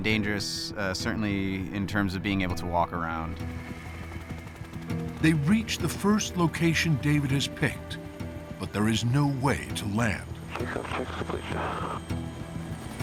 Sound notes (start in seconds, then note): 7.5 radio chatter; 10.0 helicopter blades whirring